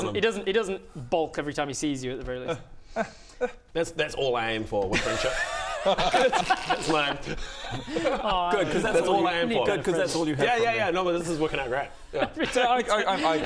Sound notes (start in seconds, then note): 5.0 relieved laugh